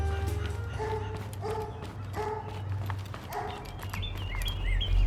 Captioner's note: dog barking